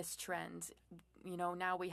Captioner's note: speaking French